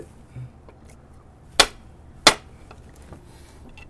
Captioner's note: smack, smack